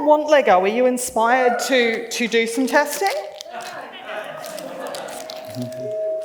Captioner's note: laughs